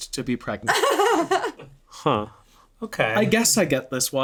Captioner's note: laughs